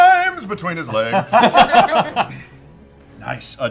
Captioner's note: laughter